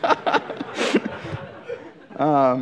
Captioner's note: laughter